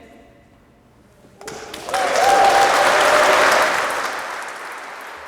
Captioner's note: audience clapping